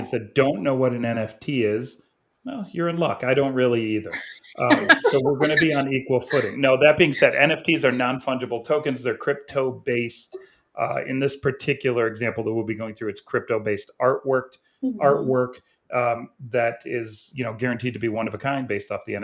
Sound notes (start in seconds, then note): 4.0 chuckles